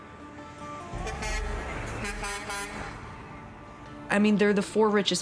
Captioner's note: horns honking